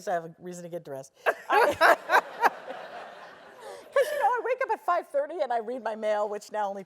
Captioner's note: laugh